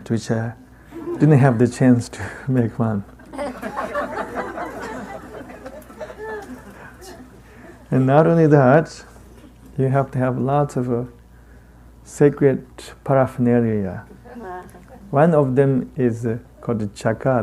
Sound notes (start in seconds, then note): 3.0 participants laughing